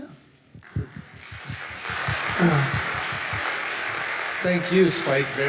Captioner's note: audience applauding